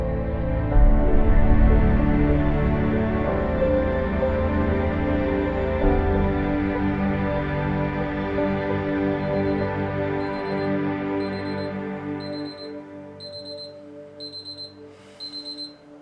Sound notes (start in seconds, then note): 10.0 alarm beeping